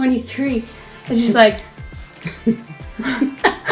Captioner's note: exhales